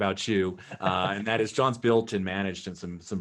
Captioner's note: laughter